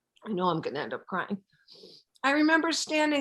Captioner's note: sniffles